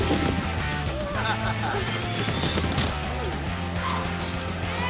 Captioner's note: laughter